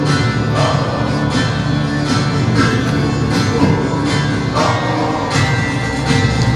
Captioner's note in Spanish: Gruñidos